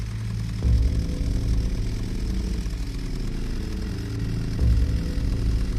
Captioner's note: chainsaw whirs; ominous music